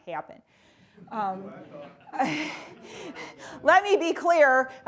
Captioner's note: laughing